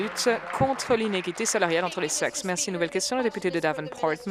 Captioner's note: applause